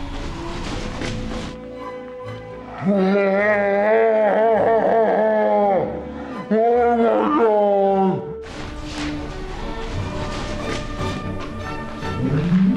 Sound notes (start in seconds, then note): 4.0 laughs maniacally